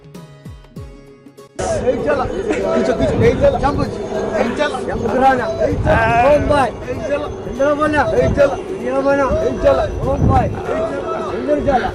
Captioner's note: chanting